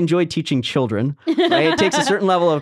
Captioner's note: laughing